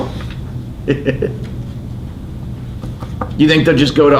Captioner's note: laughs